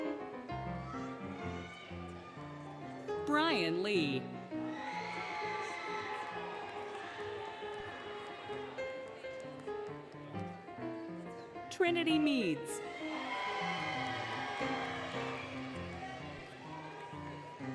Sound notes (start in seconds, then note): 0.0 applause, Cheering, Music; 4.4 applause, Cheering, Music; 12.7 applause, Cheering, Whistling, Music